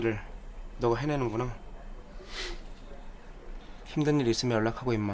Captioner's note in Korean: 콧방귀